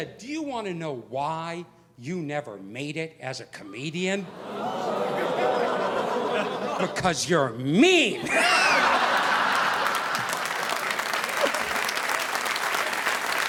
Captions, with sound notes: "Do you wanna know why you never made it as a comedian? (crowd oohing) Because you're mean!" (audience laughing) (audience applauding)